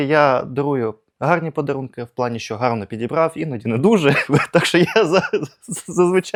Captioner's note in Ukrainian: сміх